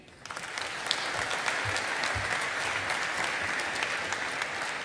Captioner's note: audience applauding